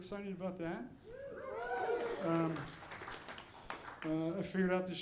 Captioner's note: audience cheering